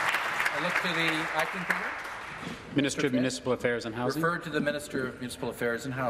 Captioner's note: applause